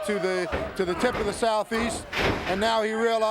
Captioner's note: body thudding